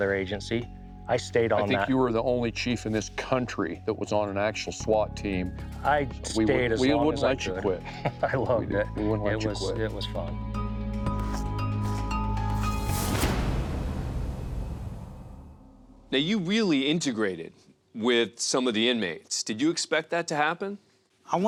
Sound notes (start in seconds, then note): 7.4 laughs; 10.8 gentle instrumental music; 11.0 footsteps shuffle; 13.2 dramatic music